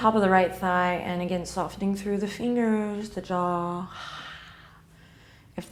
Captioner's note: sigh